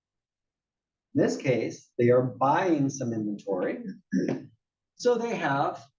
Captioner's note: cough